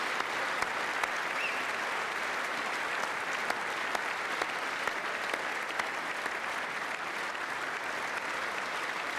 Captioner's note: applause